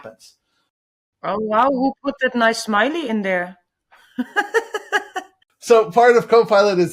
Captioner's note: laughs